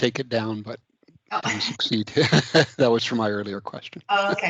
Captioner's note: laughing